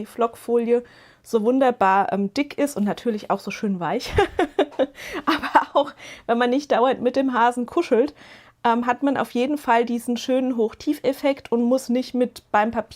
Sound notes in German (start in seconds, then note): 4.0 gelächter